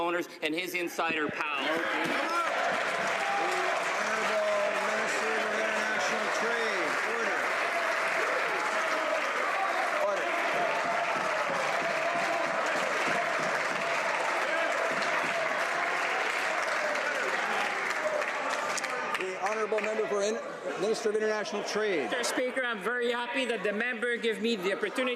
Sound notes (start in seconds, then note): 5.9 some Applause; 13.3 some Applause